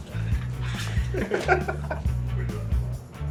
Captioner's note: men laughing